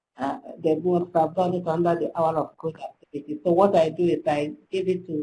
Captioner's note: slurred speech